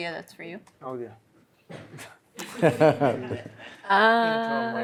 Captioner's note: laughter